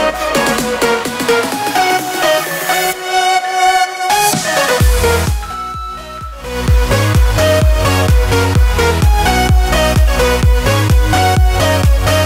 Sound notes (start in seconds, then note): 3.4 alarm beeping